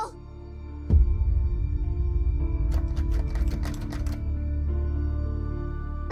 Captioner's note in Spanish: Sonido de llaves